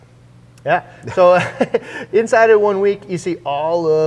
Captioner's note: laughs